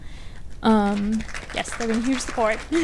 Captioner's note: audience applauds